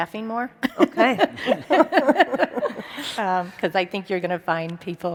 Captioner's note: panel laughs